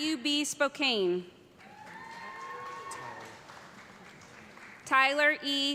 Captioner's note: cheers and applause